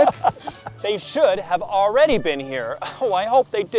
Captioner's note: scoffs